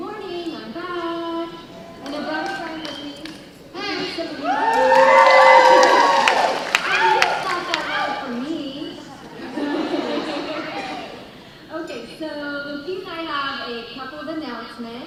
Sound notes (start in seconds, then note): 4.5 drowned out by applause; 9.5 laughing